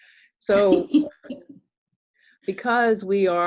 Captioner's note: chuckling